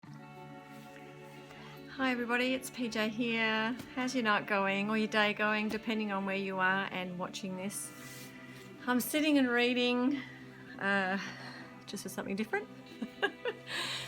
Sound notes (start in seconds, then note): 12.9 joke and laugh